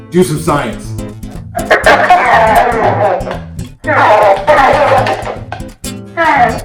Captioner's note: laughter